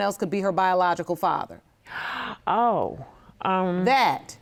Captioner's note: gasping